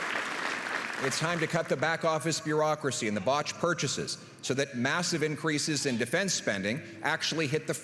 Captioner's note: applause